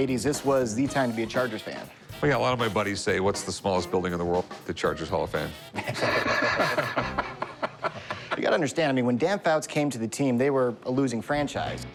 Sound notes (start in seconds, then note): 5.7 laughing